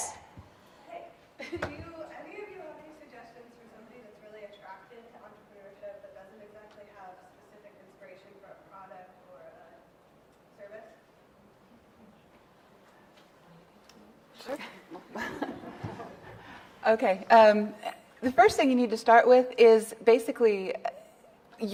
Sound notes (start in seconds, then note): 13.5 softly chattering off mic